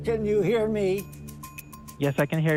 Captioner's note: imitating old person